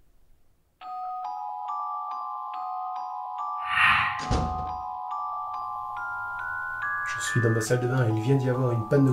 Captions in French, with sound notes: [musique angoissante] *Woosh* Je suis dans ma salle de bain, et il vient d'y avoir une panne de courant